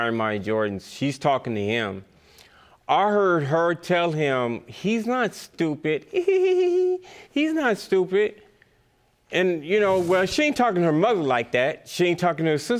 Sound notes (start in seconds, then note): 7.2 giggles